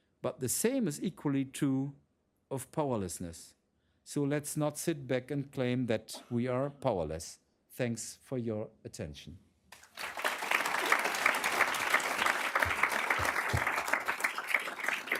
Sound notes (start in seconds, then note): 9.7 applause